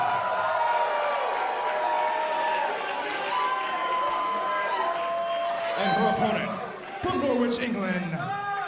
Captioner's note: crowd cheering